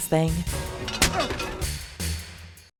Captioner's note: slap